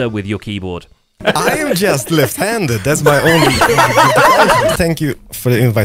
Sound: group chattering and laughing

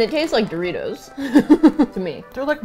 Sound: laughs

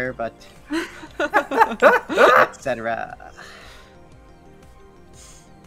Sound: laughter

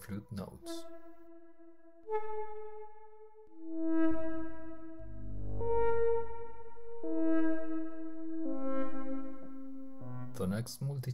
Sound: sonification continues

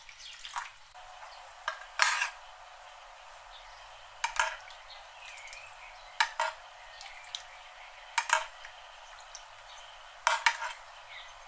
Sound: boiling

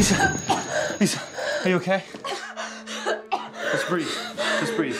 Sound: gasping for air

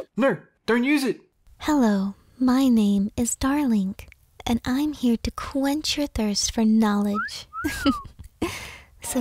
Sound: giggle

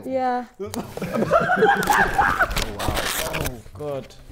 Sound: Sidemen laughing

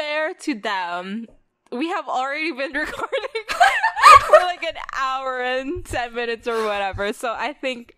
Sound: both laugh

